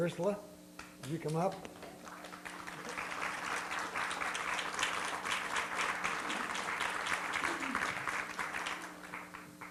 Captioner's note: applause